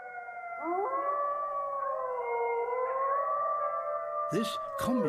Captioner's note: eerie howling